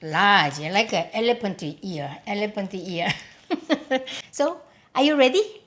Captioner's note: chuckling